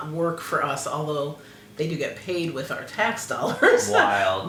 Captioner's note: laugh